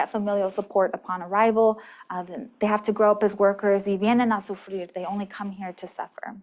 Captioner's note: non-english